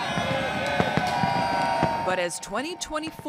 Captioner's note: crowd cheering